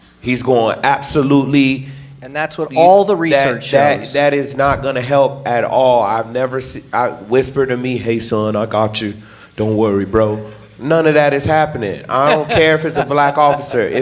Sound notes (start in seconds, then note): 12.1 laughing